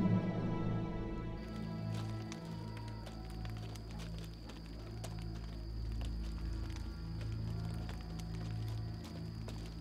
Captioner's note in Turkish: Müzik - Gerilim; Cırcır böceği sesleri; Ateş çıtırtısı sesleri